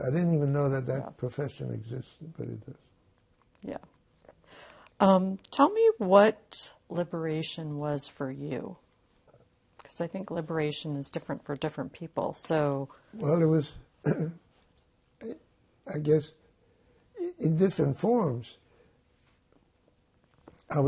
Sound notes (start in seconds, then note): 14.0 clears throat